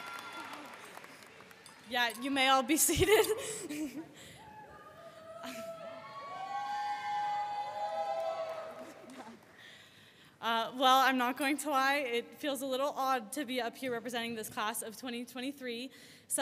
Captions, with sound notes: - Yeah, you may all be seated. (audience cheering) Well, I'm not going to lie. It feels a little odd to be up here representing this class of 2023.